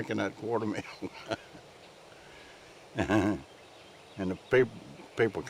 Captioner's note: laughing